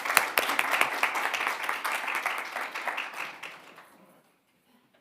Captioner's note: attendees applauding